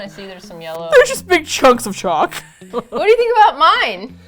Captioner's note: laughs; laughs